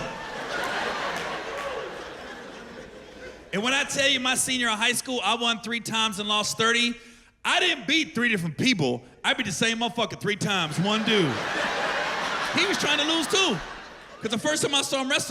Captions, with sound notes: We going through this shit together. [laughter] And when I tell you my senior year of high school I won three times and lost thirty, I didn't beat three different people, I beat the same motherfucker three times. One dude. [laughter] He was trying to lose, too!